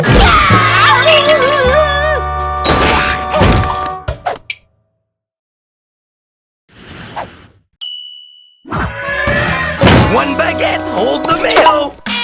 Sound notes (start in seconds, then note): 8.9 elephant trumpeting